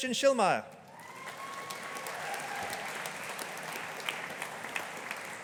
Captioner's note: audience applauding